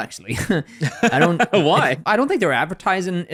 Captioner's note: laughs